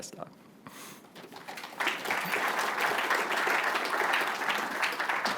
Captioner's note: applause